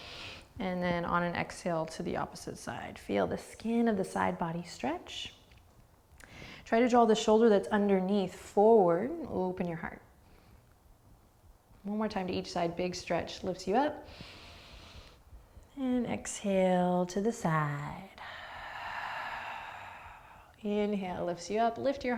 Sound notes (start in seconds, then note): 14.1 inhaling; 18.2 exhaling